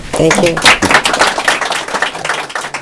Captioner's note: applause